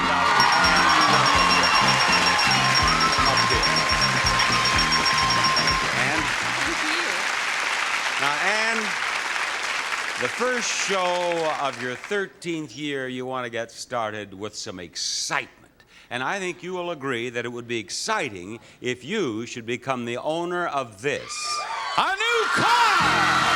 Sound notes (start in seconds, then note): 0.0 upbeat music; 0.3 audience applauding; 8.7 audience applauding